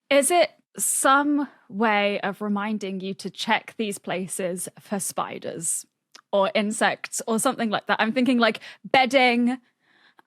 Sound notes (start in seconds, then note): none